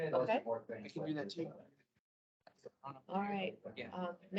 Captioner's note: indistinct chatter